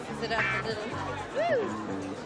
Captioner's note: laughs